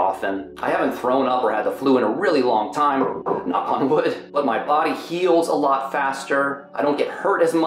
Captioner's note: knock on wood